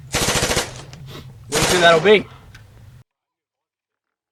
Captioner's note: sniffs